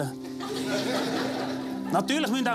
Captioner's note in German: lachen